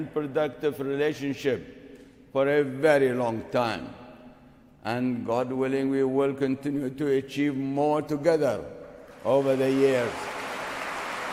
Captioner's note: applause